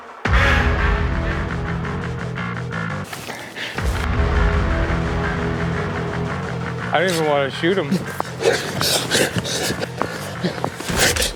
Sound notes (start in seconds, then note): 8.2 heavy, damp panting; 10.7 humming threateningly